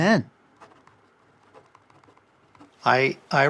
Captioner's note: pen scratching